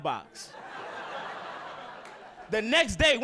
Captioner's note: audience laughing